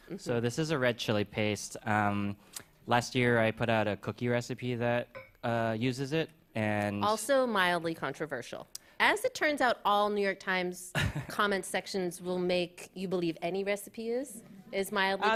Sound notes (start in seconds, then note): 11.0 chuckles